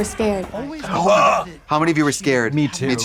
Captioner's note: Katya creaks